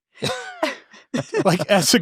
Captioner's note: all chuckles